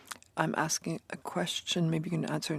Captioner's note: speaking in French